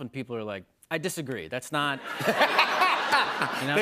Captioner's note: laughter